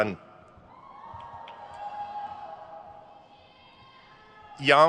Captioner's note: crowd cheers